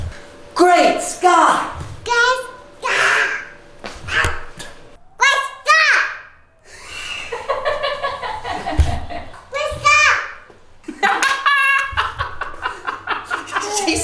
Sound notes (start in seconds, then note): 6.7 laughing; 10.9 laughing